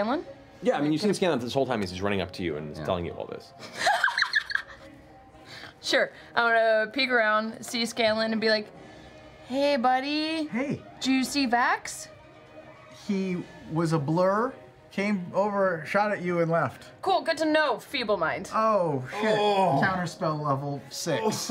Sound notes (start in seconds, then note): 3.6 laughs